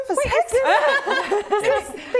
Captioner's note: laughing